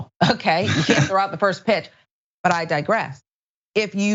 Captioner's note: laugh